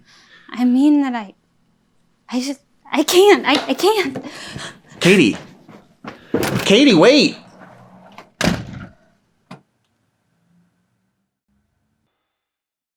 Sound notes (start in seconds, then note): 8.3 door slams